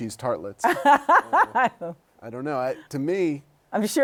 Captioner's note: laughter